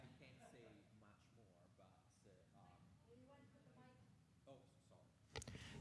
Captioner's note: audio cutting out